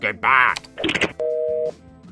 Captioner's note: phone hangs up